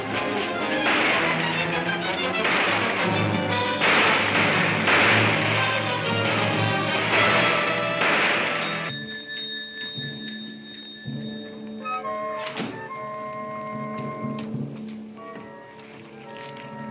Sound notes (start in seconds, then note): 7.0 bell chiming; 11.4 brooding music